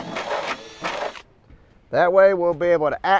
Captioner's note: drilling